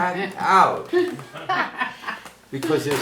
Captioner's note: laughing